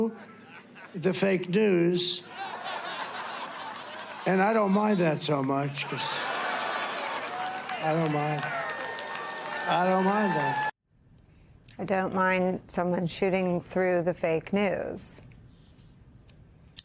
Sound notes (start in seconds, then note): 8.0 laughter